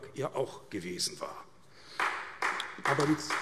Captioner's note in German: Beifall AfD